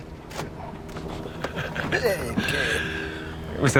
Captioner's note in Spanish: Risas